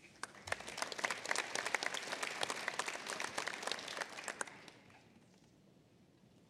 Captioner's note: applause